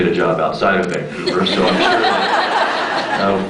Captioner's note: laughs; off mic